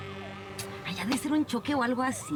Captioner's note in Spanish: sonido de sirenas